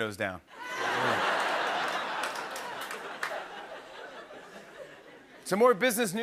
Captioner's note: laughter